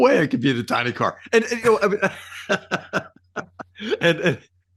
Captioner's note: laughs